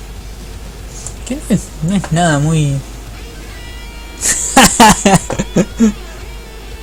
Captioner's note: laughs